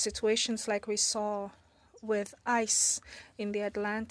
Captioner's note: speaking French